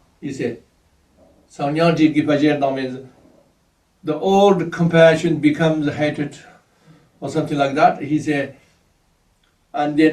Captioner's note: tibetan